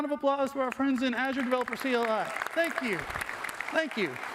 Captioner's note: applause